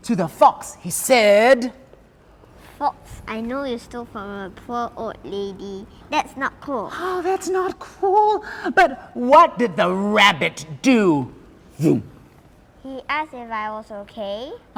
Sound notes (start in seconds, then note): 8.4 gasps